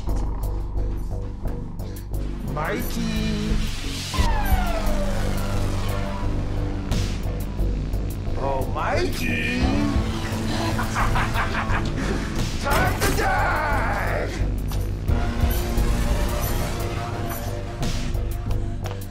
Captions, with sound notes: - Oh, shit. - Mikey. Oh, Mikey. (laughs) Time to die. (intense atmospheric music)